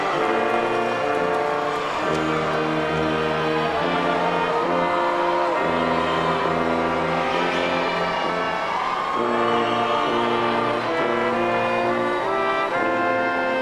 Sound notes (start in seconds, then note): 0.8 audience applauding